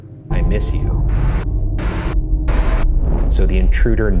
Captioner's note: static crashing